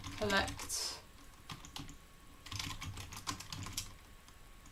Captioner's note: keyboard clicking